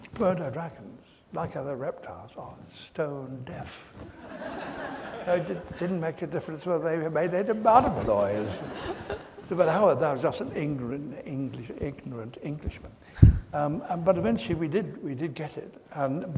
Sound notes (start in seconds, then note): 4.2 audience laughs